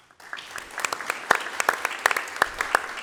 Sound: applause

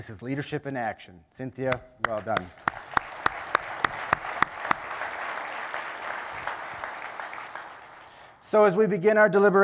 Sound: applause

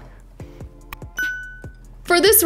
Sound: table thudding; bell dings

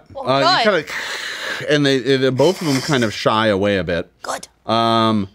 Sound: hisses

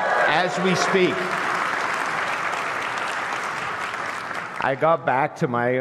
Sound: applause

